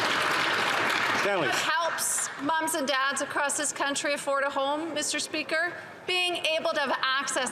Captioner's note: some Applause